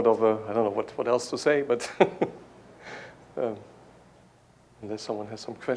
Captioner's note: laughs